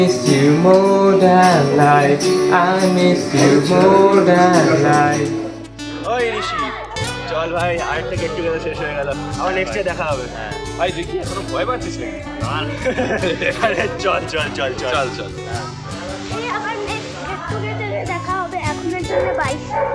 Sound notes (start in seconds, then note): 12.7 trio laughs